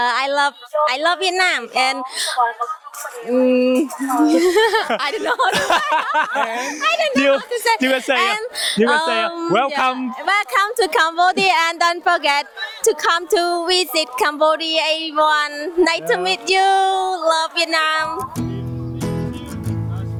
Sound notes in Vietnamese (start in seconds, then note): 3.7 tiếng cười